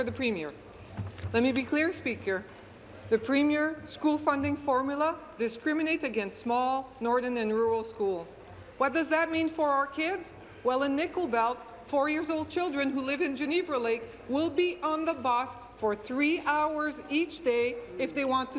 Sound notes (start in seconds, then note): 1.2 speaking in French; 6.9 speaking in English